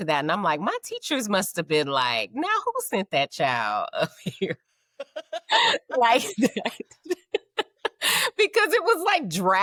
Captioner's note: laughing